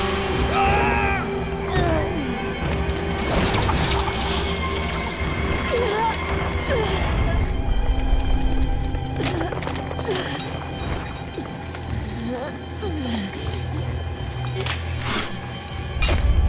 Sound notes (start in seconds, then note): 0.4 screaming; 5.5 grunting; 8.9 grunting